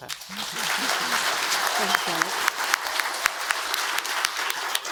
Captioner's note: audience applauds